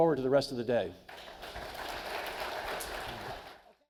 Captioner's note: audience applauding